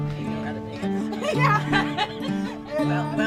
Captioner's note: soft acoustic guitar music; laughing